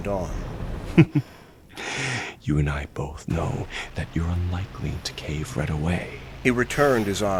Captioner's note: small chuckle